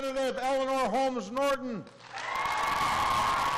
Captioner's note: applause